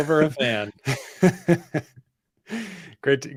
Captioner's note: laughs